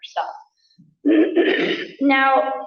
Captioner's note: coughs